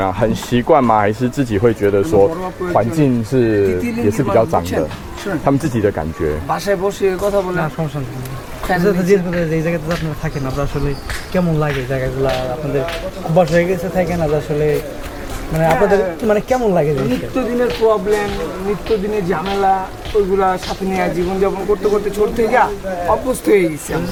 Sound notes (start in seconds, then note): 6.8 local language